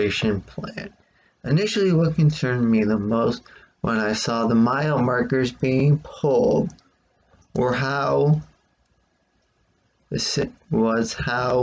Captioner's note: tapping of keyboard